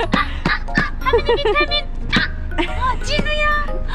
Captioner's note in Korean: ㅋㅋ